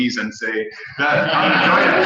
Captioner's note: laugh